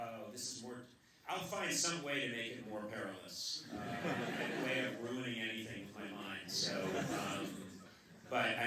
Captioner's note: laughter